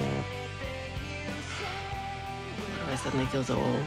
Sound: sighs

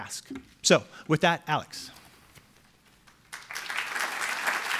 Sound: applause

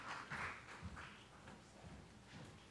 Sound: applause

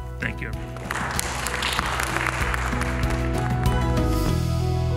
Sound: applause

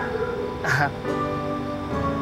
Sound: scoffs

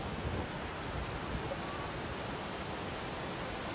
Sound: water gushing

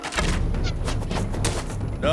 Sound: arrows thwacking

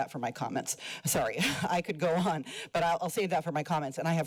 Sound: chuckles

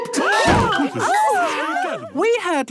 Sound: all gasping

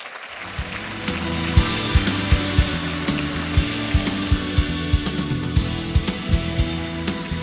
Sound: applause

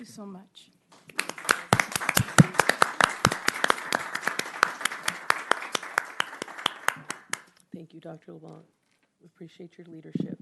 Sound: applause

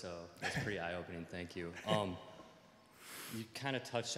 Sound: chuckling

